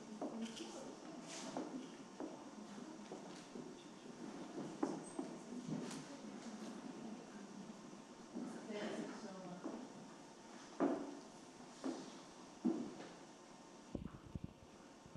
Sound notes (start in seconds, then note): 8.6 participant faintly speaking; 10.6 heels clicking